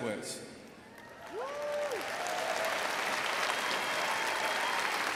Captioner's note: crowd applauds